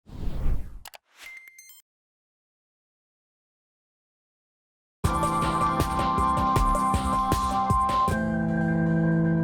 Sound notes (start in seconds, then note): 0.1 air whooshing; 5.0 upbeat electronic keyboard music